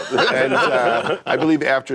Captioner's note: laughter